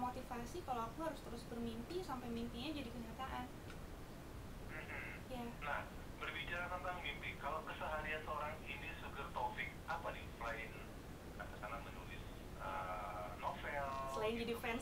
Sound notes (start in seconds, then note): 9.7 laughing